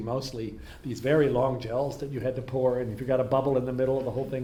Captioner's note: none